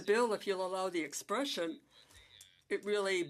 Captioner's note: speaking French